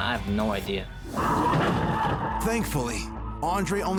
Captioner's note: tires squealing